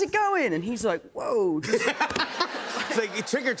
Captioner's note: laughter